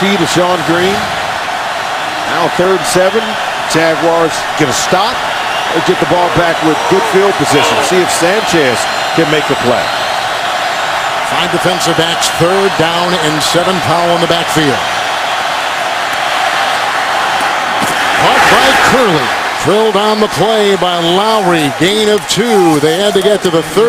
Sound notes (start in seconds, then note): 17.0 crowd yelling